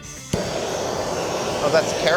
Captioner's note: blow torch hissing